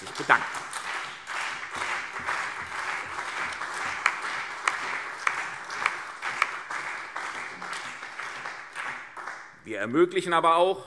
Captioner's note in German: Beifall CDU, BÜNDNIS 90/DIE GRÜNEN und vereinzelt auf der Regierungsbank